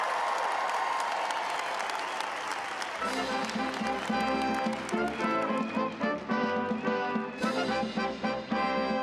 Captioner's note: applause